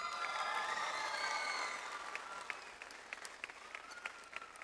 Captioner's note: audience applauds